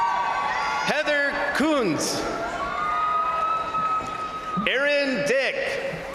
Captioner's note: crowd applauding; crowd cheering; crowd cheering; crowd applauding; crowd cheering